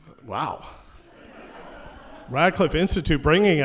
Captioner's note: laughter